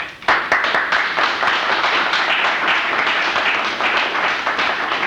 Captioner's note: applause